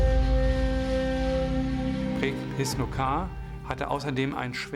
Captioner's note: speaking german